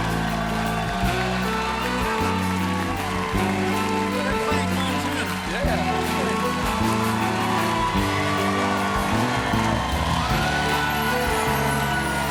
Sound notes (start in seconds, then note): 0.0 band playing; 0.0 cheers and applause; 0.0 band playing; 0.0 cheers and applause